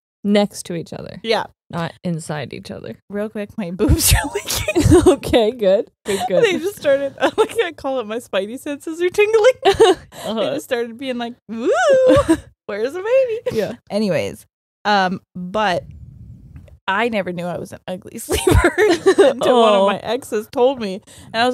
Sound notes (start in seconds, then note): 6.1 chuckles; 9.7 both chuckles